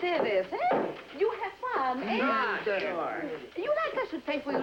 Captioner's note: men Chattering